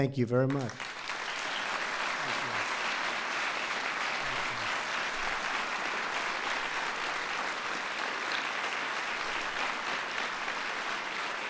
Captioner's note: applause